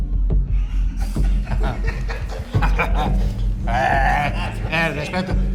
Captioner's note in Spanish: Risas